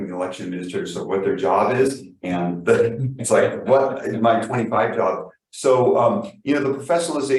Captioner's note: laughs